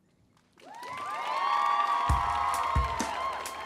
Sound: audience applauding; upbeat music

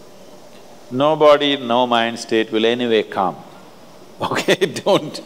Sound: laughs

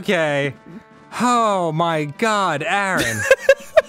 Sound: sighing with relief; seagull laughing

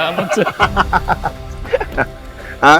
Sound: laughs

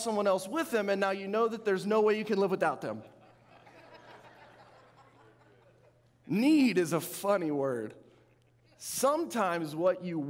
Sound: audience laughing

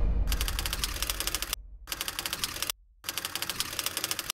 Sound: ominous boom; typewriter clicking

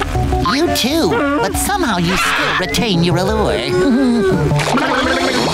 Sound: giggling

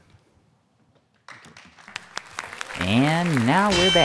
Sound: audience clapping

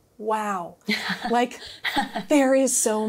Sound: laughing

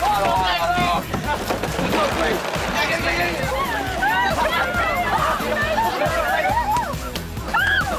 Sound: indistinct chatter

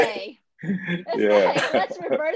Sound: laughs

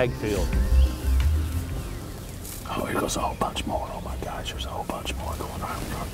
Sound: whispering

